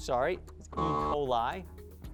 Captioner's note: buzzer sound